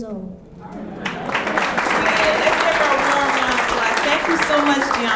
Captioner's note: audience clapping